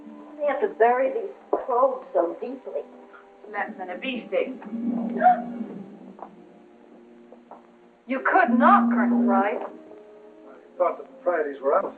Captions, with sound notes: Why do they have to bury these probes so deeply? It's less than a bee sting. [gasps] You could knock, Colonel Price. I thought the proprieties were out.